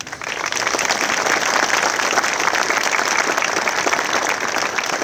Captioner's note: audience applauding